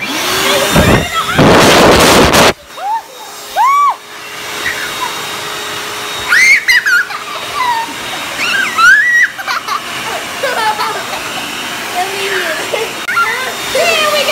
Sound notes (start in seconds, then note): 0.7 vacuum rumbling; 6.2 girls screaming and giggling